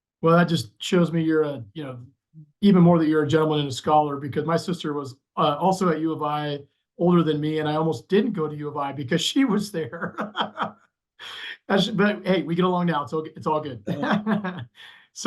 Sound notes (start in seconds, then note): 9.2 chuckles; 13.6 laughs